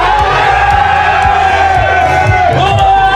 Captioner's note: screams